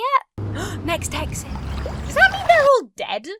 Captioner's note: gasps